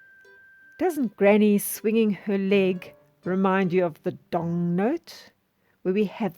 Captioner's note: dong